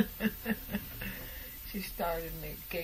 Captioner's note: laughing